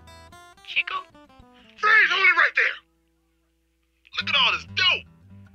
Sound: voiceover

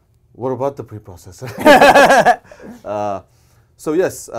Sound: both laughing

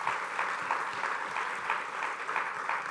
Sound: applause

